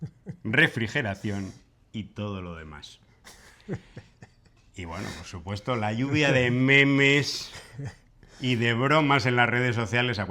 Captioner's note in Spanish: risas